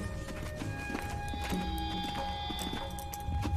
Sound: footsteps

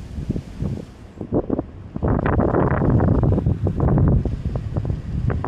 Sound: very Windy

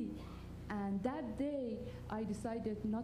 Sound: none

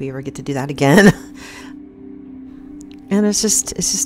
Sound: woman chuckles

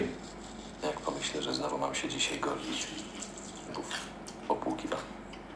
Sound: foreign language

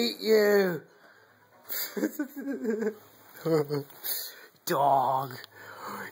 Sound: laughter

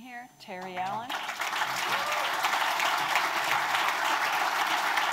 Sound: audience applauds

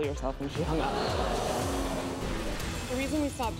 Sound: audience gasps

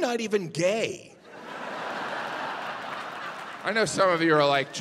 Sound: audience laughing

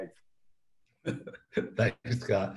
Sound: both laugh

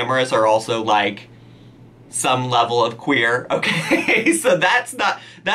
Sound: laughs

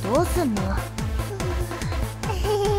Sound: whimpering, almost sobbing noise

